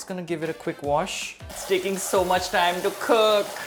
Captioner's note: running water sound